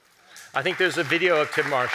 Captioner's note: audience applauding